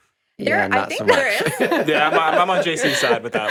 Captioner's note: group laughing